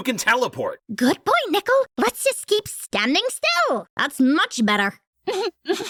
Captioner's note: sarcastically; Candle chuckles